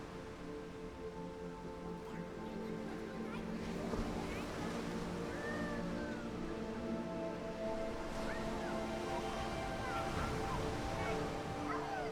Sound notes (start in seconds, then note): 2.4 children chattering